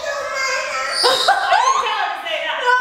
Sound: laughs

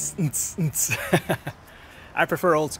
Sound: laughter

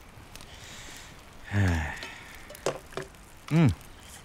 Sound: sighs

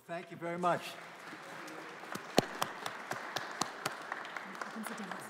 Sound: audience applauding

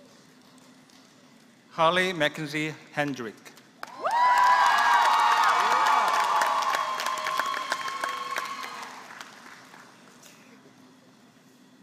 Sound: applause

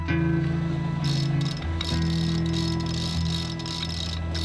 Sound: lever cranking

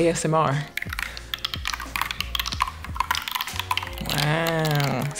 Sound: paper continues tearing

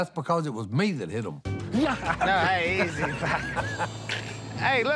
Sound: laughs

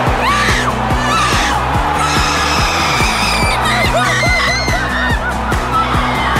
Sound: screaming

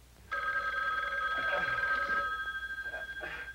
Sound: phone ringing

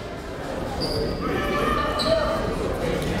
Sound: chatter

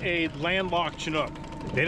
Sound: boat engine idling

